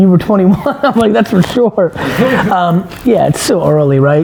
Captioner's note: laughs